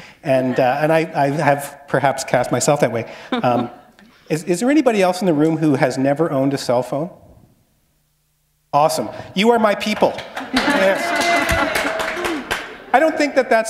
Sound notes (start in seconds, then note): 7.4 pause; 10.4 applause